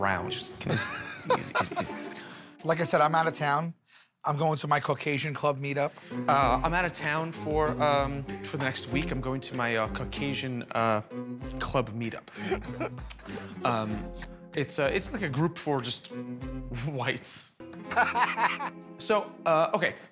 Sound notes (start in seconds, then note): 17.9 laughs